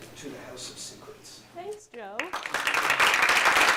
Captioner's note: applause